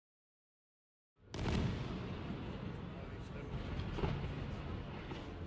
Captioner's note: fireworks exploding